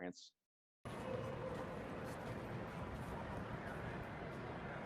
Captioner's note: people chattering